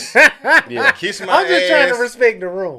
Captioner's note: co-host laughing